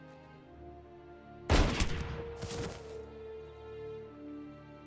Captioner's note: gun shooting